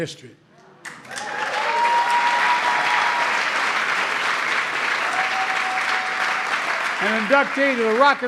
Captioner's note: applause